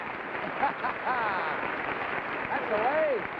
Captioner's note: man chuckling